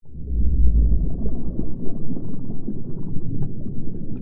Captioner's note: muffled underwater sounds